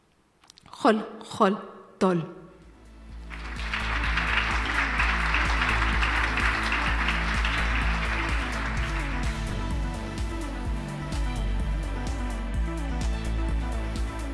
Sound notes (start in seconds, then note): 3.2 audience applauds; 9.1 upbeat music